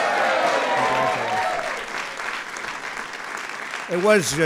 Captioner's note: applause